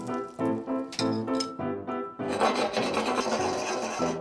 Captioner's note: shaking pan